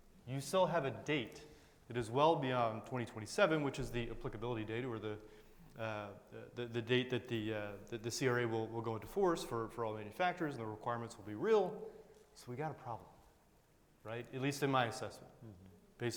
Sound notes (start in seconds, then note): none